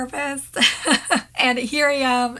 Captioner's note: chuckling